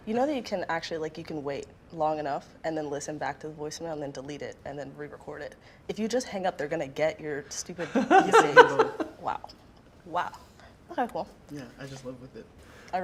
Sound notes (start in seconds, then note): 7.8 laughing